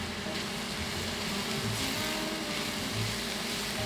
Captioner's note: sizzling louder